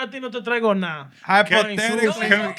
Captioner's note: non-english Speech